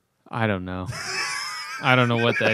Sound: laughter

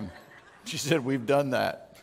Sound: chuckling

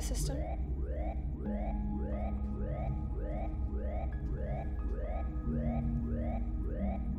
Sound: suspenseful music; alarm blaring

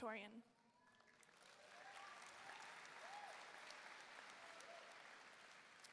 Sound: audience cheering and applauding

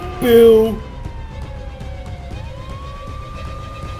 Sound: police sirens

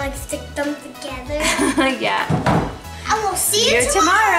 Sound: laughs

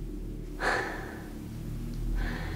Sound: exhales

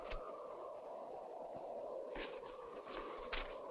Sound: wind howling

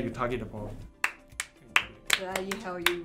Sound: claps

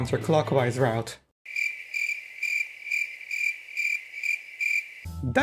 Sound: crickets

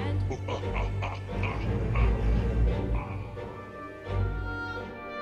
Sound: evil chuckle

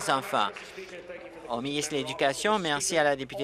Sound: applause

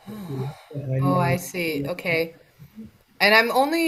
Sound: sighs

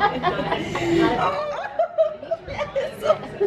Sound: laughing

